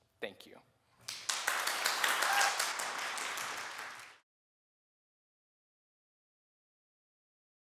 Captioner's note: applause